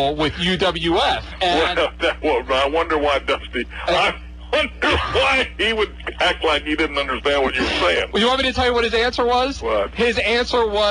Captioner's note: laughing